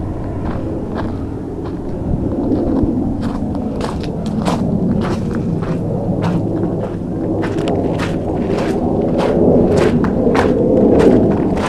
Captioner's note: footsteps and eerie wind